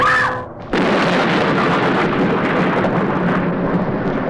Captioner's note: thunder crashing